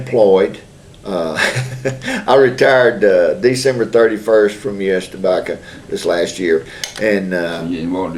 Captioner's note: laughs